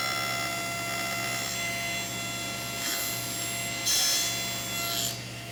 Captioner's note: table-saw continues whining